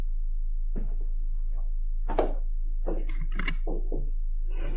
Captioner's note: footsteps